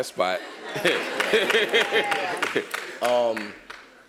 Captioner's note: applause